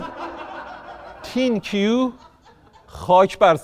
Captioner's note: laughter